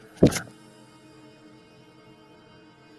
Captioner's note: laptop thumps closed